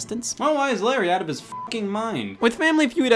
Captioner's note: beep